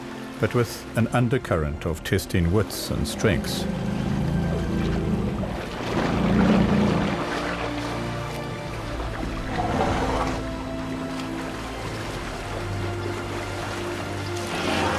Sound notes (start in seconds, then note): 2.9 rumbling; 6.4 animals calling